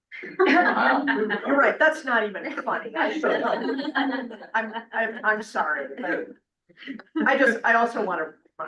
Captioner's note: laughs